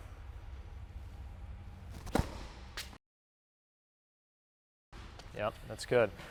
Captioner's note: ball striking racket